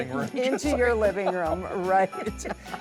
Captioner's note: laughs